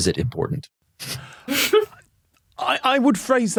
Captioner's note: snicker